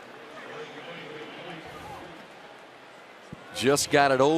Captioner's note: pa announcement